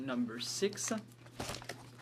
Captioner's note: speaking French